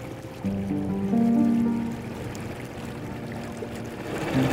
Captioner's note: water churning